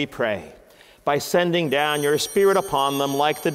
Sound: chimes ringing

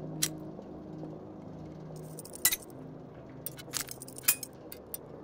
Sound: metal clanking

